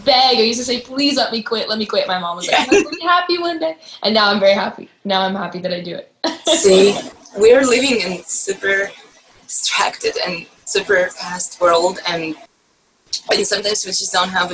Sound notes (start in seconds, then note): 6.3 laugh